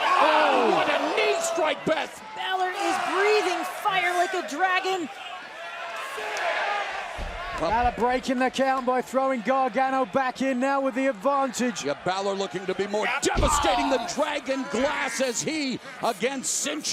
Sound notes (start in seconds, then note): 7.2 crowd cheering